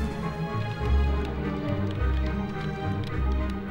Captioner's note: keyboard clacking